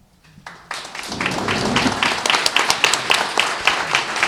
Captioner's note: applause